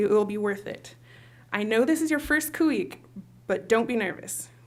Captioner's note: non-english speech